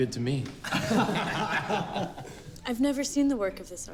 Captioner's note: men laughing